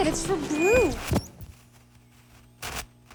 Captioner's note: feedback